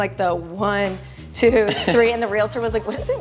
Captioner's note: Caleb laughing